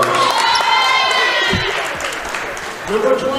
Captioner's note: cheering